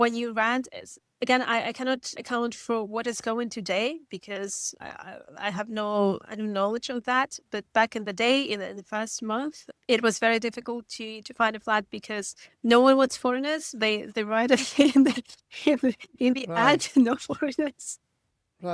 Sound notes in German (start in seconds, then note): 16.6 lacht